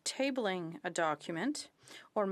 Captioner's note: speaking in French